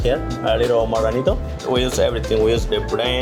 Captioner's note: speaks Spanish